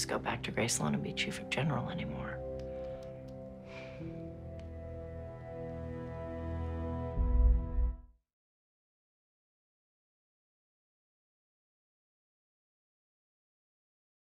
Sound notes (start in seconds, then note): 3.6 sighs lightly